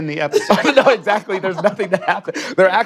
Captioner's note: laughs